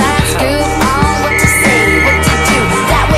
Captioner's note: Bric blows whistle for help